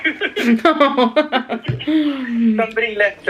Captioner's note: both laughing